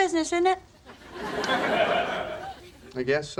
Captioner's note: laugh track laughs